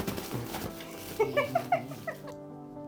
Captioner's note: laughter